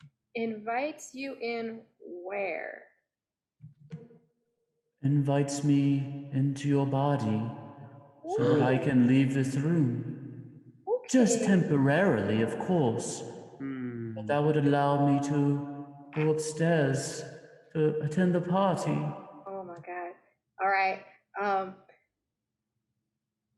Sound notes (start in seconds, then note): 8.4 players gasp